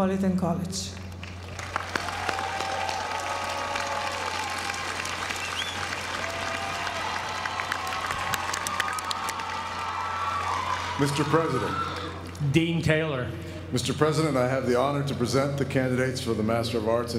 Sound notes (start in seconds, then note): 1.0 applause